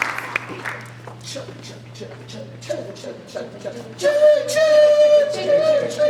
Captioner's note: children imitate train engine